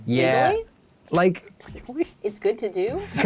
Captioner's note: laughs